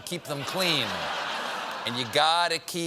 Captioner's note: laughter